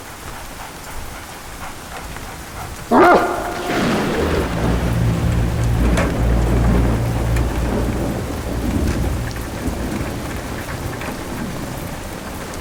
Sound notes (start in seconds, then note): 2.8 dog barks